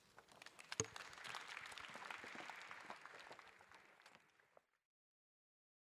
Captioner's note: applause